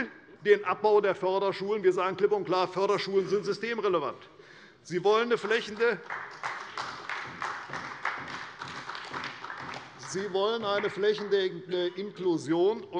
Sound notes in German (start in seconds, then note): 5.2 Beifall bei Abgeordneten der CDU